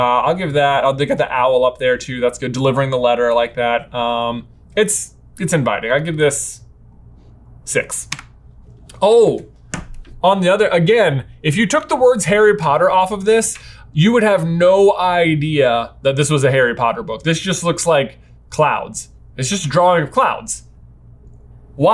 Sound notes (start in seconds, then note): none